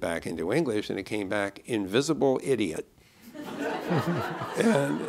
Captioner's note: laughter